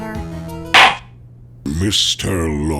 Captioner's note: gavel slams!